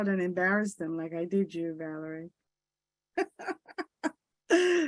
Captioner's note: laughs